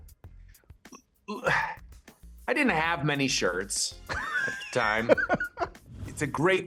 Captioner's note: sighs